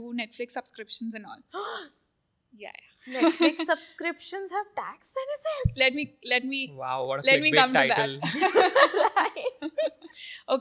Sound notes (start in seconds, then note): 1.5 gasps; 8.2 all laugh